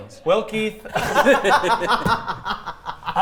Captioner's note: players laughing